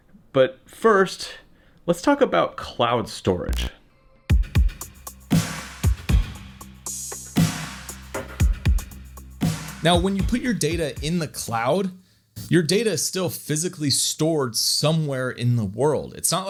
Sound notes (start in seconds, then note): 3.5 electronic buzzing; 4.2 upbeat music